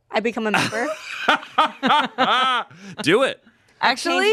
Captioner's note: laughs